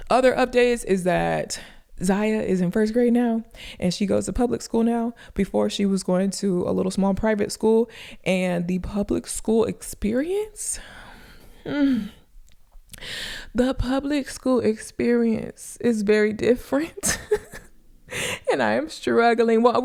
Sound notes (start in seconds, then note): 17.0 chuckles